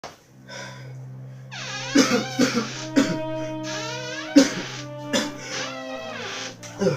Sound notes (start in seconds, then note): 1.8 cough